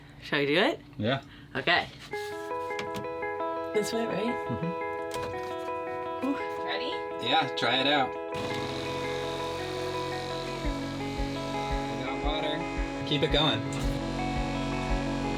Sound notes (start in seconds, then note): 2.8 gentle music; 8.3 whirring